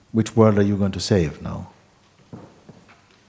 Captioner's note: none